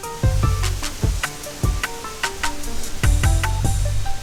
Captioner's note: leaves rustling